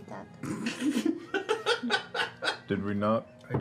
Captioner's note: laughing